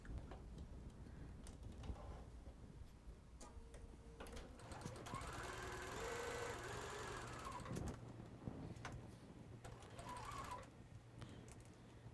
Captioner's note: sewing